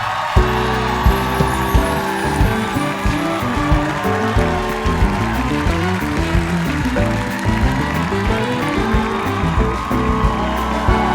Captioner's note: cheers and applause